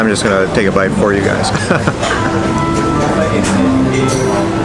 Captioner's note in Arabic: ضحكات خافتة